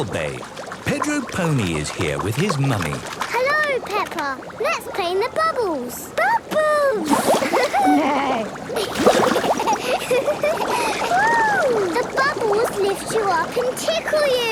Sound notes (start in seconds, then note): 7.4 giggling; 7.5 giggling, neighing